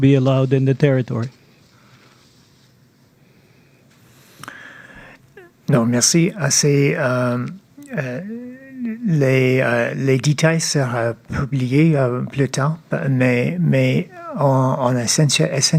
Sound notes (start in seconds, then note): 5.1 speaking French